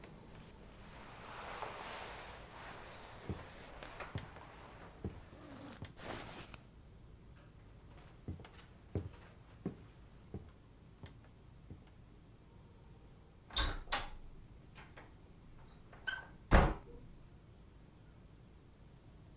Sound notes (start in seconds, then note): 9.2 footsteps receding; 13.3 door opens; 16.2 door closes